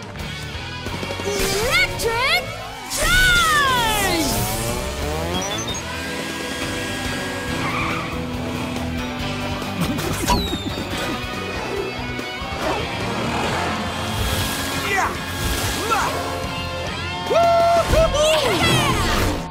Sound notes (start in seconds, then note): 7.2 tires screeching